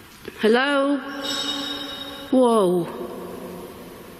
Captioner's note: distant clang